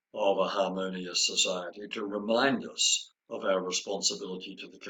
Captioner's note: none